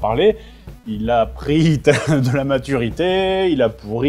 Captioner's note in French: rire